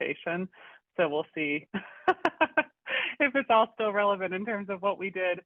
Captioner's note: chuckles